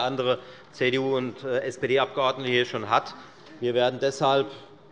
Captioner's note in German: none